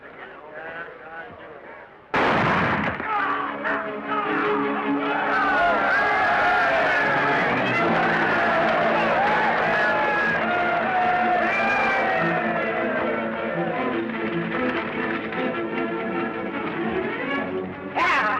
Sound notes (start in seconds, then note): 2.1 gunshot; 6.1 cheering